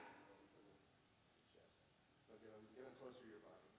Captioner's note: students mumbling